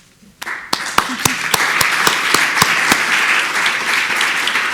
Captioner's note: audience applauding